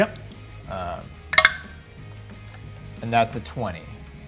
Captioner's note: die rolls